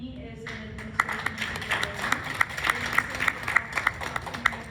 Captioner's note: clapping